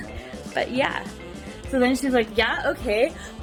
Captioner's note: laughs